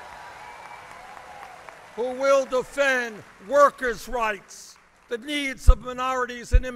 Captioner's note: applause